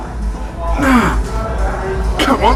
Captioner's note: grunt